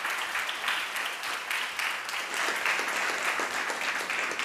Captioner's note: audience applauding